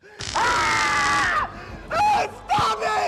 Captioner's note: screaming